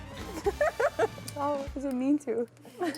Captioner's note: laughs